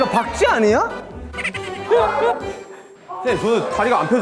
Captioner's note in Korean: ㅋㅋ